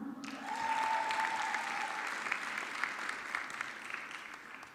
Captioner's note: audience clapping